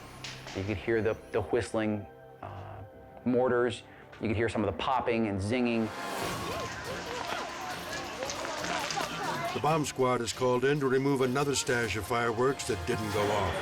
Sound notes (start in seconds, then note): 5.9 fire raging; 6.2 crowd murmuring